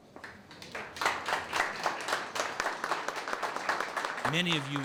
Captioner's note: people applauding